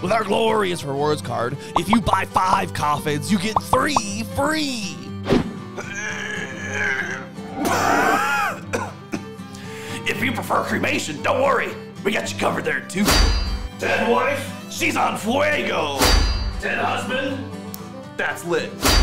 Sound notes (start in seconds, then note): 7.5 struggles, coughs up ash